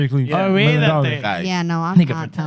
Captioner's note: speaking Spanish